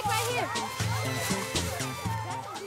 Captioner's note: children chattering